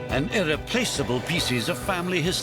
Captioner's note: synch sound